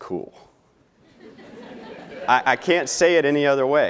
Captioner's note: laughing